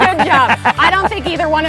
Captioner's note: all laughing